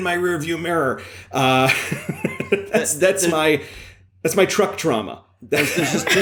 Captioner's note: laughs